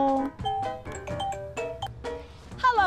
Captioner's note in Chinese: 電話鈴聲